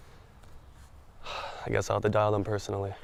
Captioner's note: sighs